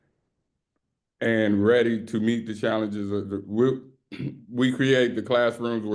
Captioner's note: clears throat